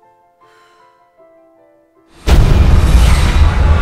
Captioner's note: sighing; dramatic music